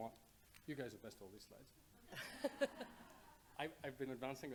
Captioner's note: laughing